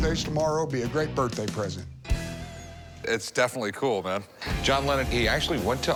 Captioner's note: none